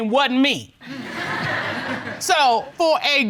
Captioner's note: audience laughs